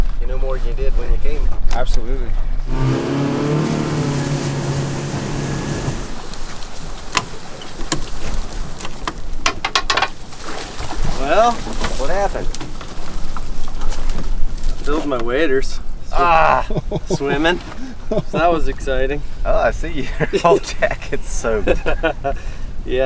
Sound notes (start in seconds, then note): 2.6 engine roaring; 16.6 laughing; 22.0 laughing